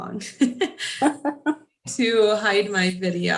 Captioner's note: laughs